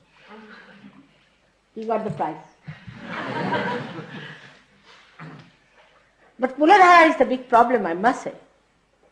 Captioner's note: laughter